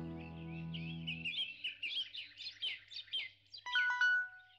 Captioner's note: birds chirping; alarm ringing